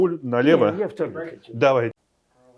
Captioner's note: drinking